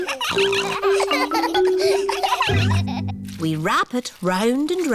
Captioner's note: all laughing; snorts